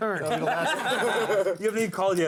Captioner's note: laughter